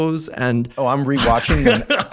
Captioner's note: laughs